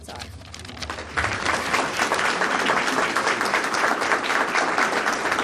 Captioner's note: audience applauding